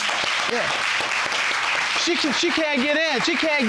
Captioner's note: audience applauding